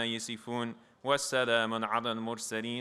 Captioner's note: non-english speech